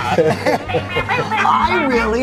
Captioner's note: laughs loudly